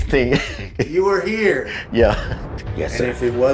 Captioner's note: chuckling